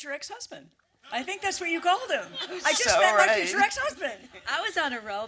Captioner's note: laughter